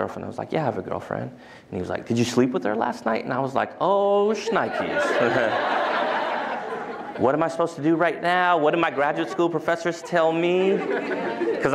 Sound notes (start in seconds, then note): 4.4 laughter